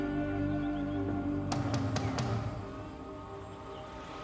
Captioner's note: birds chirping